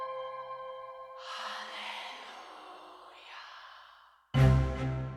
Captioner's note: whispering Voices; suspenseful music